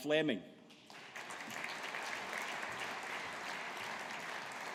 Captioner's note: audience applauding